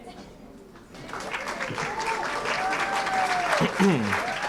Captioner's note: cheering & applause